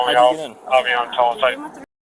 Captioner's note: radio chatter